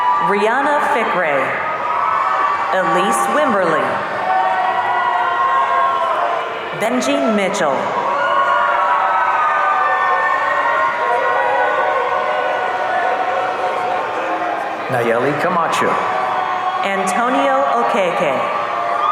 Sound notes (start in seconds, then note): 4.3 audience cheering; 8.2 audience cheering